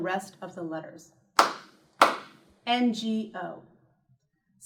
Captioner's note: clap